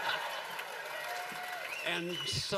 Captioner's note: laughter, cheers, applause